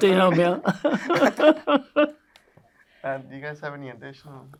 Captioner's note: both laughing